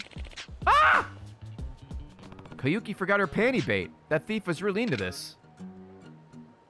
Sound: screams

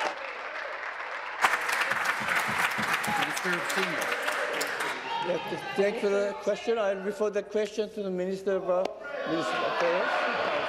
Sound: applause

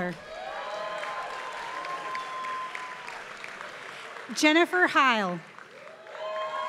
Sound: applause

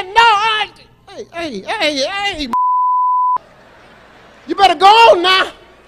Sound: beep

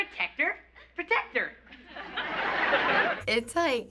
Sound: canned laughter

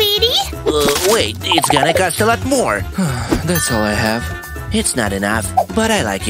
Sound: deep sigh

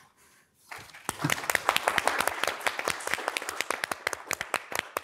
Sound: audience applauds

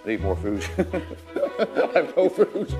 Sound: chuckling

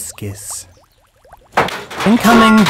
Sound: crash

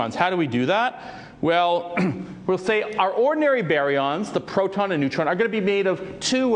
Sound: cough

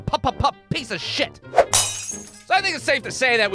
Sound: crack!

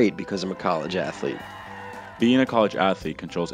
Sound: cheering

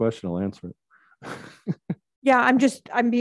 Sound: laughs

